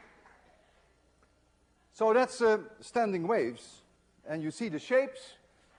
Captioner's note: applause, cheering